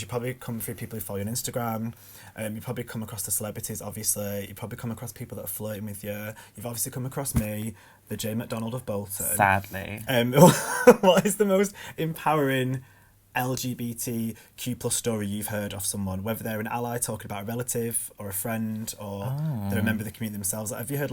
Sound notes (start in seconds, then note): 10.3 laughs